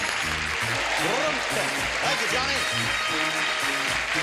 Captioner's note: audience applause